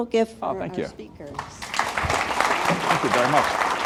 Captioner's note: audience clapping